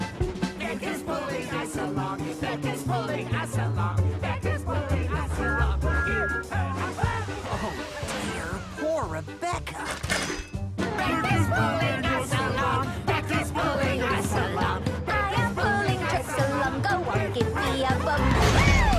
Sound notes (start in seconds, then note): 5.2 Thomas Whistles